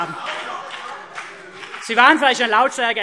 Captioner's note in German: Heiterkeit und Beifall CDU